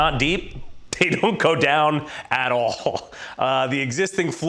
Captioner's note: chuckles; laughs